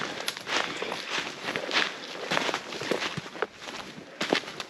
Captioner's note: leaves rustling